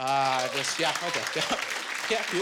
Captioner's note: applause